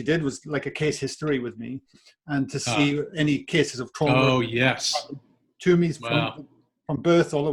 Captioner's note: audio cutting out